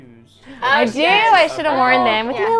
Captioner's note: all muttering agreement